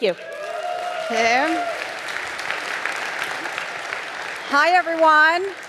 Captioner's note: audience applauding